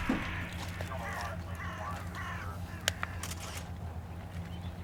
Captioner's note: bird cawing